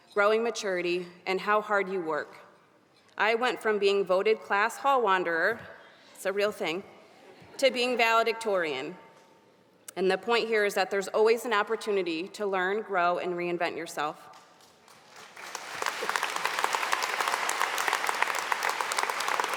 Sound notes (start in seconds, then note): 14.8 audience applauding